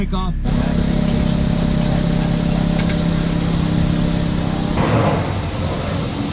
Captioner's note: car-engine noise